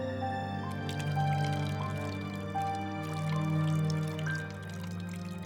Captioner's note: wine splashing